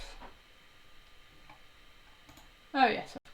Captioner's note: mumbles softly